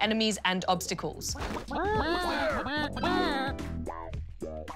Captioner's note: chickens cluck